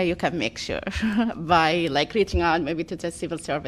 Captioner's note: laughter